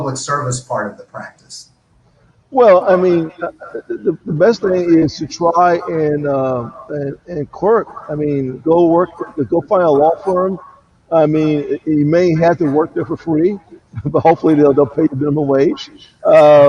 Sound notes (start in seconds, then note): 14.6 laughs